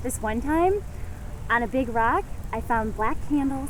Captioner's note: none